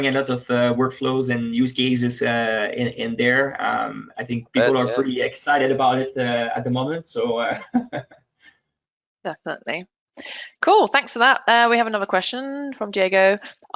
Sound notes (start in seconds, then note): 8.5 laughs